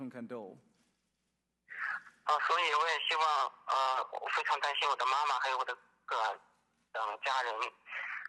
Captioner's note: Chen in Chinese